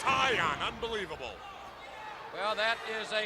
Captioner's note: crowd chatter